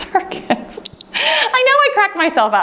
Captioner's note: timer beeps